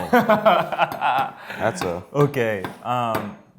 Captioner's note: laughs